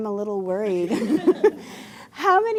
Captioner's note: laughter